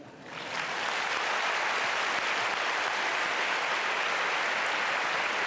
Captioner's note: applause